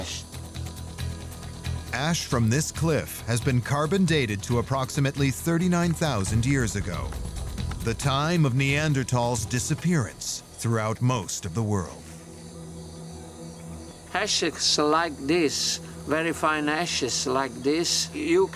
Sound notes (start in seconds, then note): 12.1 birds singing